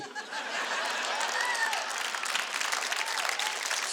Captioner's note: audience laughing